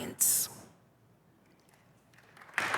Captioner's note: applause